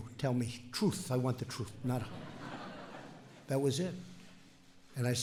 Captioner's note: laughter